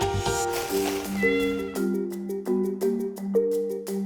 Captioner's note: cat meowing